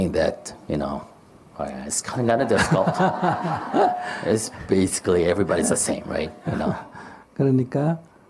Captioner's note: /Interpreter/Audience Laughter